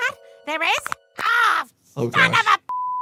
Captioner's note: beep